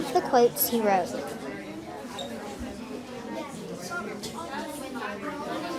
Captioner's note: students chattering